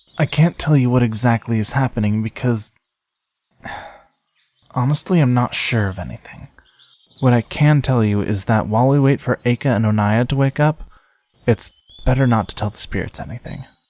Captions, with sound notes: I can’t tell you what exactly is happening because, (sigh) honestly, I am not sure of anything. What I can tell you is that while we wait for Eicca and Oneia to wake up, it’s better not to tell the Spirits anything.